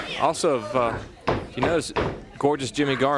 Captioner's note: crowd chatter